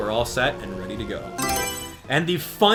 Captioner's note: Mario Selection Sound